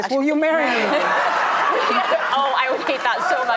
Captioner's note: audience laughs